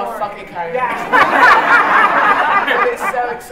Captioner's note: laughter